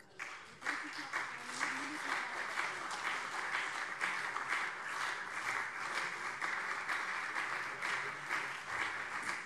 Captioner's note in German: Beifall SPD und CDU